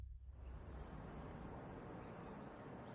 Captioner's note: bird calls